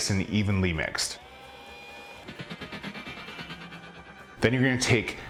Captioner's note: beaters whizzing; metallic swoosh